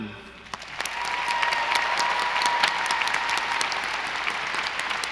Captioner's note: audience applauding